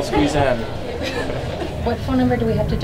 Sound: laughter

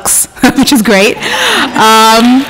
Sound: laughs

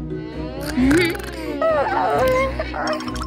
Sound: snoring

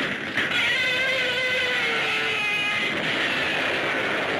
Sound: Gammera screeches; explosion booms

